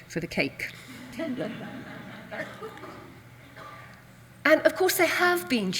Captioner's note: audience laughs